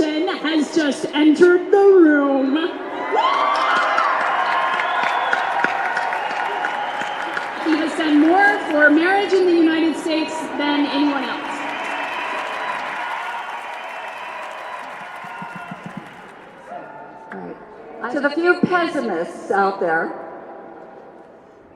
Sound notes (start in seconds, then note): 2.8 cheering; 12.5 cheering